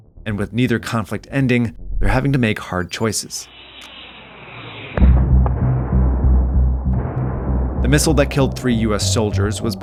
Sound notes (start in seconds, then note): 3.4 missile whistling; 4.9 suspenseful music